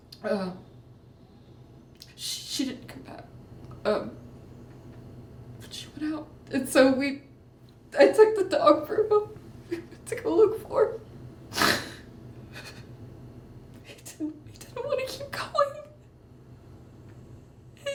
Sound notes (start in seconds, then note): 0.0 inhalando; 11.5 resoplando